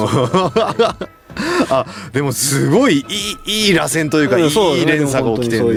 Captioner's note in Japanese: 笑い